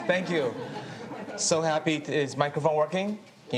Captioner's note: audience laughs